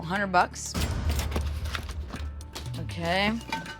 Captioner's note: cash register dings